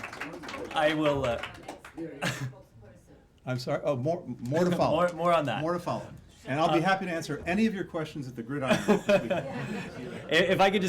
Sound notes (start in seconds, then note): 2.2 laughter; 3.7 applause